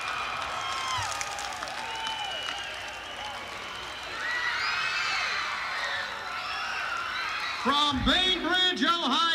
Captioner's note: crowd cheering